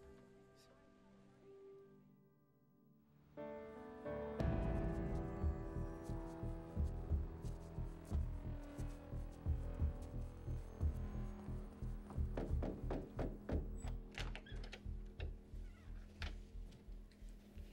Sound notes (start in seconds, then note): 4.4 powerful instrumental music; 12.1 knocking